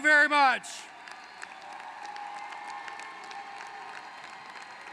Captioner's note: applause